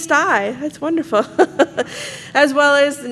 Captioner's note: chuckles